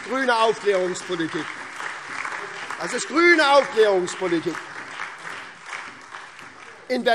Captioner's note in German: Lebhafter Beifall SPD, Freie Demokraten, DIE LINKE und vereinzelt AfD